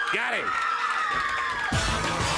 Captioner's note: crowd cheering